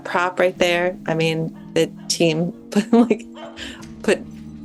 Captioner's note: chuckles